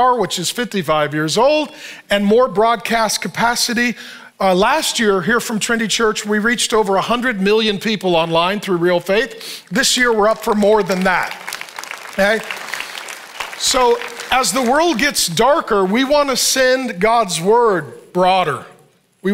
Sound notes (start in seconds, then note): 11.6 congregation applauding